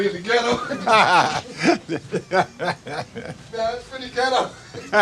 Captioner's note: Jerry laughing